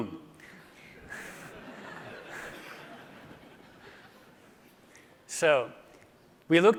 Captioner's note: laughter